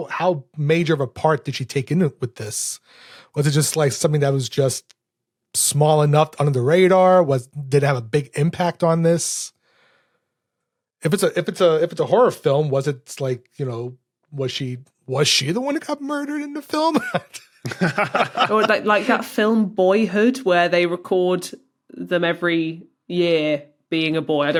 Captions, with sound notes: How major of a part did she take in with this? Was it just something that was just... small enough, under the radar? Was— Did it have a big impact on this? If it's a horror film, was it like, you know, was she the one who got murdered in the film? (giggles) (laughs) Or like that film Boyhood, where they record them every year being a boy.